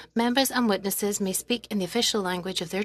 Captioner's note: speaking French